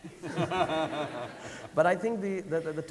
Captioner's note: audience laughing